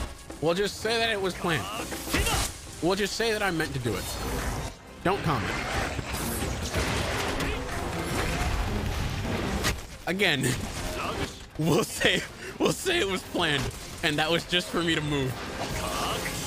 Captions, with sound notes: We'll just say that it was planned. We'll just say that I meant to do it. Don't comment. Again, we'll say [chuckling], we'll say it was planned, and that was just for me to move.